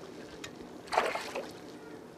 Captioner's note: splash